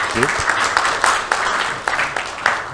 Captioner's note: applause